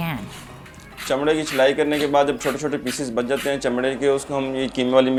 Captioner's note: speaking foreign language